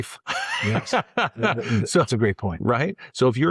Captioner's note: both Laughing